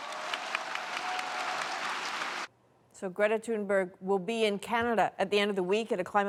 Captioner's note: applause